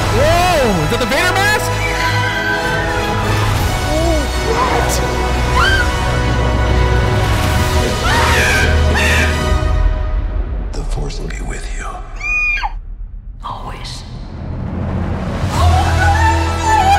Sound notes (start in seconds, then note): 8.0 screaming